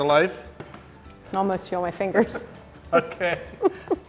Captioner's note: laughing